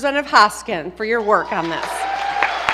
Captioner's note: applause